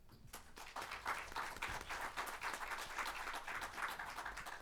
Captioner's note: audience clapping